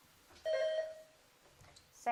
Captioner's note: bell dings